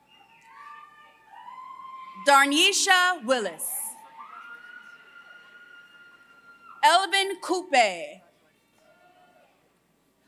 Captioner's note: applause